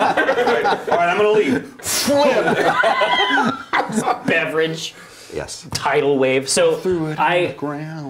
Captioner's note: table flip sound fx